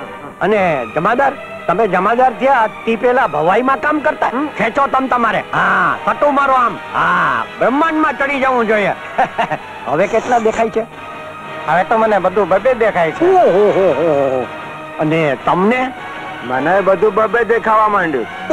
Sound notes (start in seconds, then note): 9.0 chuckles